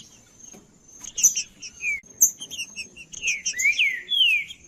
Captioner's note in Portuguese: trinca ferro cantando